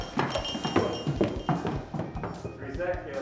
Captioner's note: chair clattering